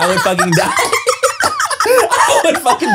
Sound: everyone laughs

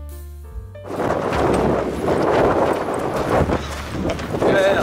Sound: the wind sounds strong

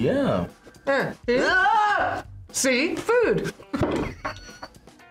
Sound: yells; both laugh

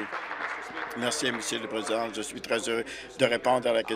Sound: applause

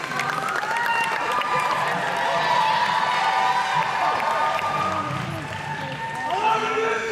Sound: cheering

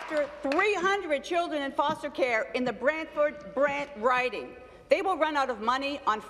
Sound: applause

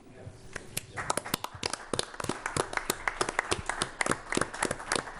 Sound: applause

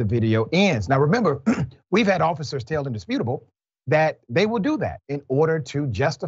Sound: cough

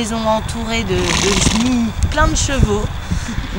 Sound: neighing

